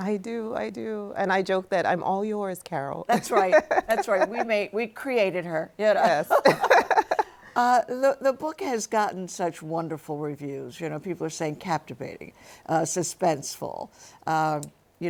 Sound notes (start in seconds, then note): 3.2 laughing; 6.2 laughs